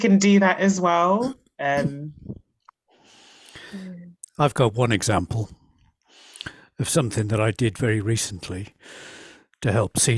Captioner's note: laughs